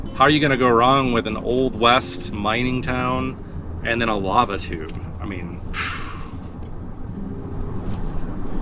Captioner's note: blows air